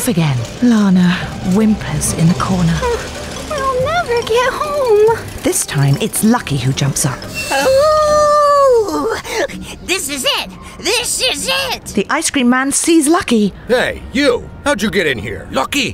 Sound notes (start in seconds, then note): 7.4 he howls